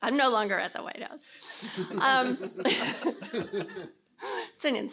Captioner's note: laughter